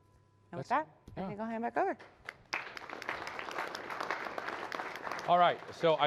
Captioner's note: applause